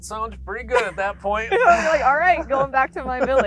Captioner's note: both laughing